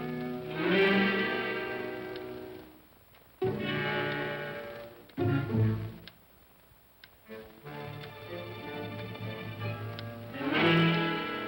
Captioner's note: ominous whimsical music; clock ticking